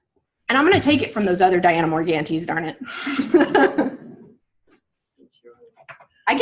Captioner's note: laughs